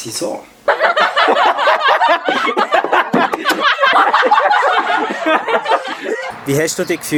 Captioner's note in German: grosses Gelächter